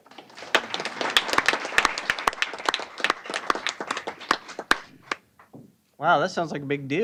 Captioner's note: applause